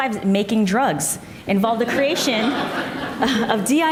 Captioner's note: audience laughs